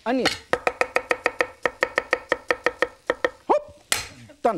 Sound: chopping onion

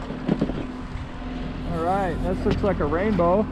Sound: boat engine idling

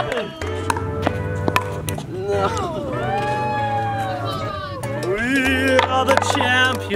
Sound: ball knocks against paddles

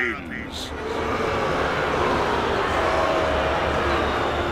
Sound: jeering

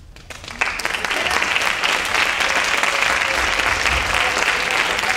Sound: audience applauding and cheering

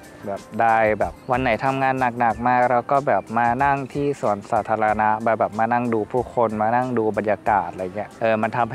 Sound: none

